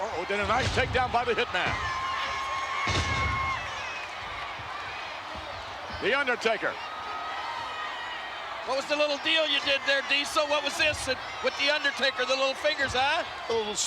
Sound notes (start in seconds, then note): 2.0 spectators cheering